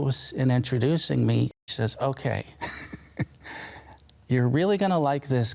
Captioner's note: laughs